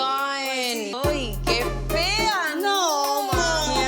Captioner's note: speaking Spanish